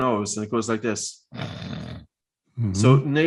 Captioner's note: snorts